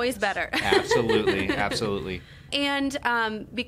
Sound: laughing

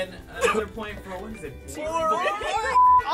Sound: laughs

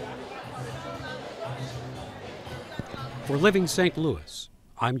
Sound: people talking

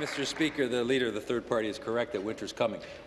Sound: applause

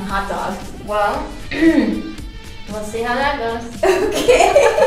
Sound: clears throat; laughing

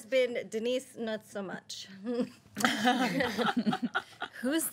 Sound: girls laughing

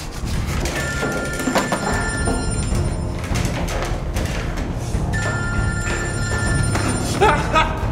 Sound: phone rings

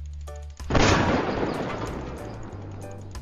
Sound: boom

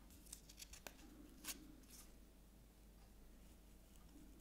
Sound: paper scratching

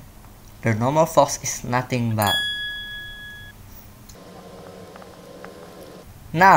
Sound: bell ding again

